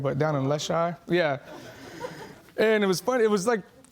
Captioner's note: laughing in distance